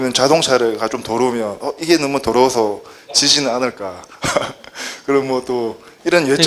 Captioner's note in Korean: 웃음